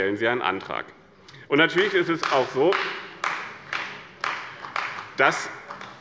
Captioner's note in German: Beifall bei der CDU